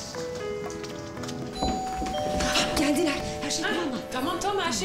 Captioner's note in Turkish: Kapı zili çaldı